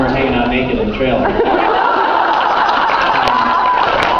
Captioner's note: laughs, applauds